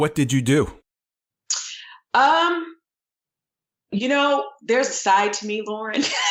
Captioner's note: laughter